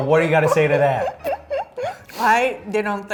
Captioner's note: laughing